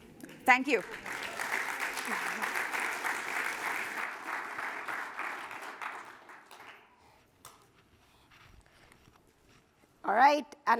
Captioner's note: applause